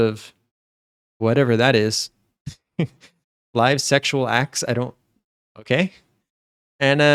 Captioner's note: chuckles